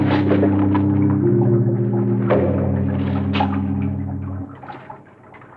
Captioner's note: water burbling